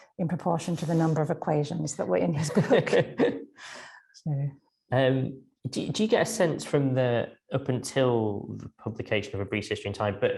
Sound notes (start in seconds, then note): 2.4 both laughing